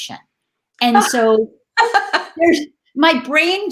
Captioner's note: laughing